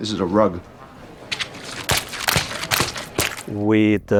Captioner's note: water splashing